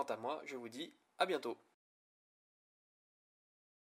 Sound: french "A bientôt !"

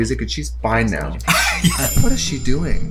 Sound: Katya laughs

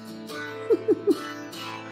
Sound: giggles

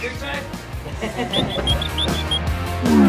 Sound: both laughing; rock music continues

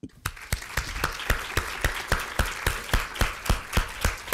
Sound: audience applauding

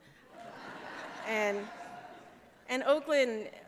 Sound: laughter

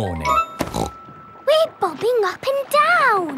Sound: snorts

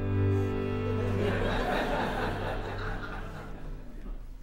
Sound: laughter

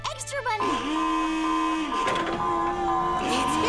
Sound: alarm blaring

